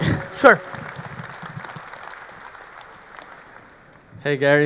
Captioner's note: audience applauding